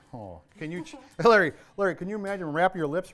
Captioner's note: laughs